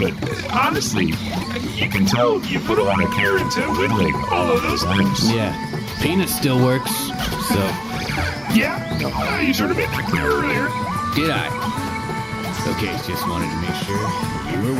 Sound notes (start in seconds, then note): 8.5 laughs